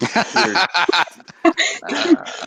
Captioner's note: laughing